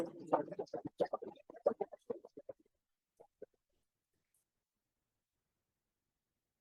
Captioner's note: audio distorting from loud applause